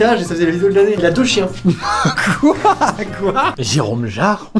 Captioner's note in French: rire